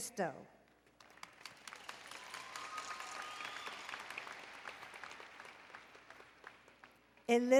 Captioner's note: applause and Cheering